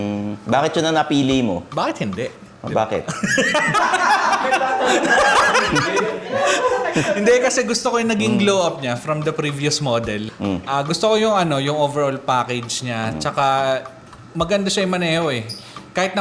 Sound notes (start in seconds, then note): 3.1 laughs